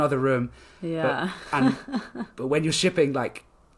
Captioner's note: laughs